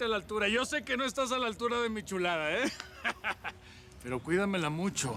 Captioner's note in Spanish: risas